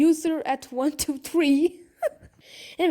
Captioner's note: laughter